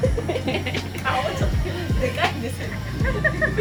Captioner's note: laughs